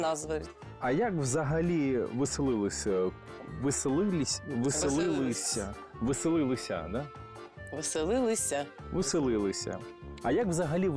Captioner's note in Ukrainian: намагається правильно виговорити слово веселилися